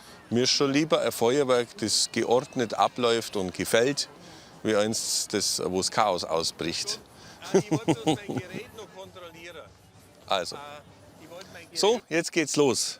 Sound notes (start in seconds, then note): 7.4 he chuckles